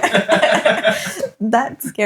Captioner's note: laughing